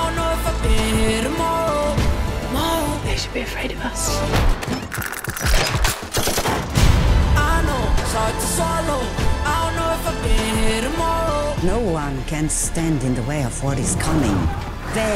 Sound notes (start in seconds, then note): 5.3 guns firing